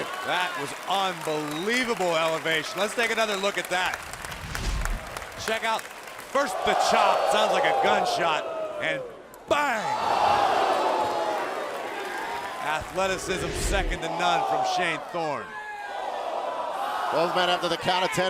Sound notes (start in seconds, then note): 9.4 crowd cheering